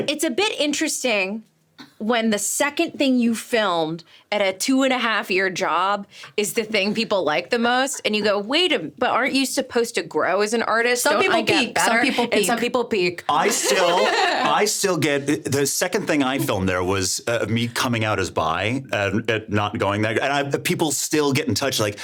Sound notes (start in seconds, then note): 13.4 laughing